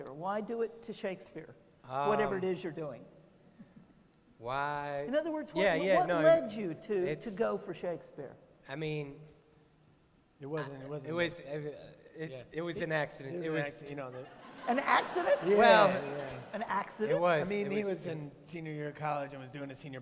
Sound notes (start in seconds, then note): 14.1 laughter